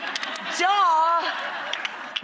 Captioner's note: audience laughs